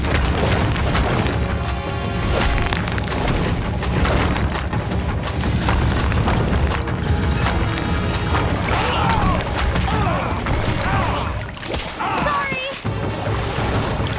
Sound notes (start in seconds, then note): 8.8 screaming